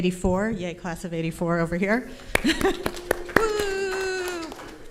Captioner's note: applause